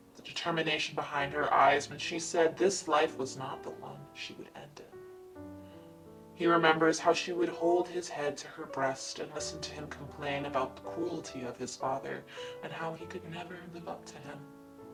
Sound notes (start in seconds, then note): none